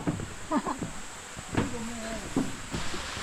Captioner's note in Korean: 실소